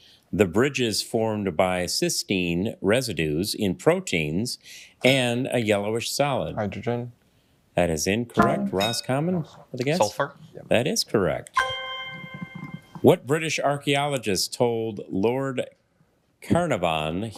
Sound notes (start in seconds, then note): 11.5 ethereal ring